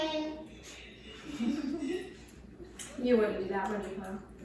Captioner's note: chuckling